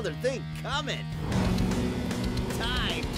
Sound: revving

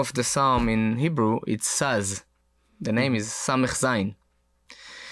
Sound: speaks in foreign language

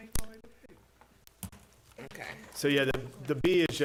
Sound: indistinct conversation

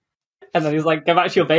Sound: laughs

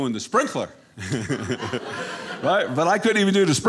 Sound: audience laughing

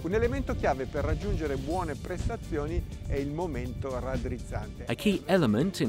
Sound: speaking foreign language

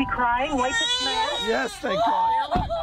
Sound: baby cries

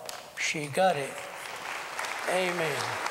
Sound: applause

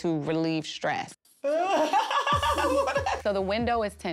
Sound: laughs

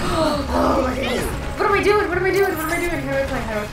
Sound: gasp

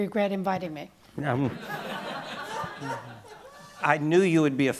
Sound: laughing

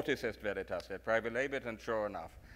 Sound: speaks in foreign language

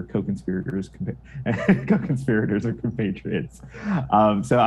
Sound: laughs

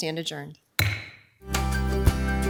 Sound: gavel bangs; upbeat music plays

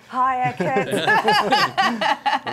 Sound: laughter

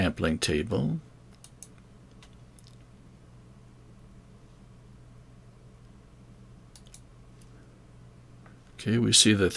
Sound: mouse clicking

